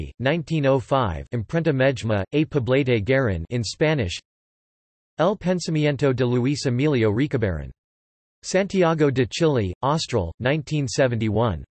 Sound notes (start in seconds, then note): 3.5 in Spanish